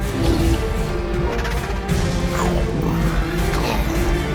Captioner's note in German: Bestie brüllt